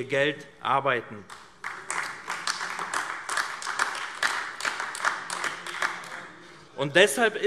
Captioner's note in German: Beifall AfD